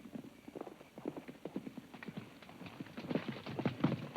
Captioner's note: hooves clomp